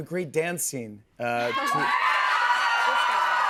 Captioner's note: cheers and applause